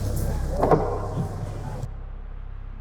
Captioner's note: ominous door closing